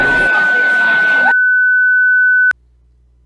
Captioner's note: pure white noise